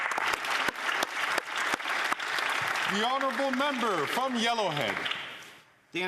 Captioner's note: some Applause